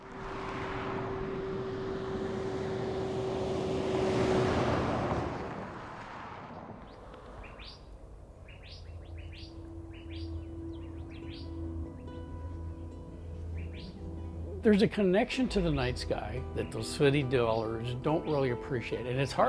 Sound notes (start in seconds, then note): 0.1 traffic hums; 7.7 birds chirp; 12.2 soft guitar music